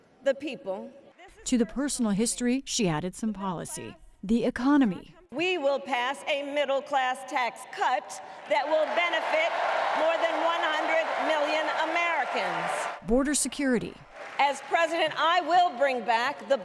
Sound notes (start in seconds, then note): 13.0 applause; 13.0 cheering